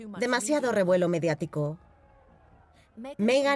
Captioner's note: crowd yelling